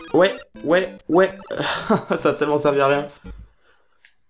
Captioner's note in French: rire